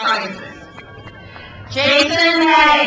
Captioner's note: crowd cheers